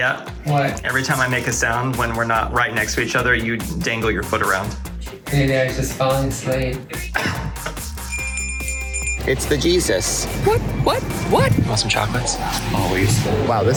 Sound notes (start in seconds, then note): 7.0 cough; 7.9 bell Jingles